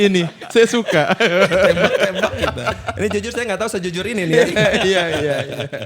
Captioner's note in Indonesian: tertawa